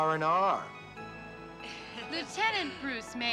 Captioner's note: people laughing